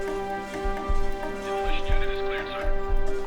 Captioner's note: man on radio; beeping and whirring continues